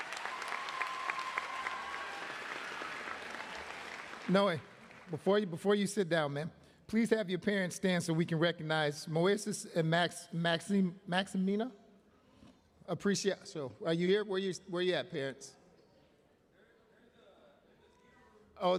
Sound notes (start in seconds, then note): 2.0 applause